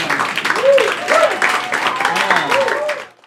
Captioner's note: crowd cheering